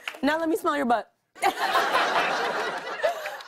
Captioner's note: laughter